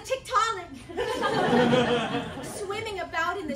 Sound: laughter

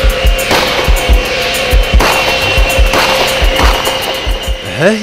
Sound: sounds of shooting

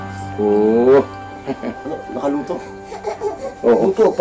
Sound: stammers

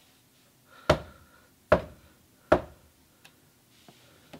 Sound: menacing knocks at the door

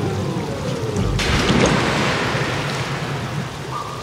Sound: loud splash

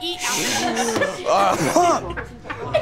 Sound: coughing

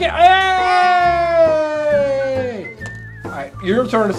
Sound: cheering

